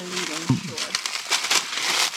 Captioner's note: laughing